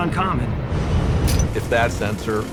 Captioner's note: metallic clink